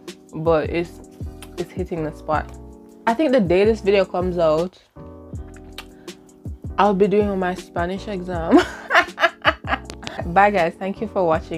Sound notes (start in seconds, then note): 8.6 laughs maniacally